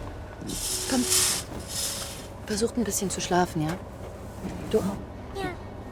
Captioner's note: speaks in foreign language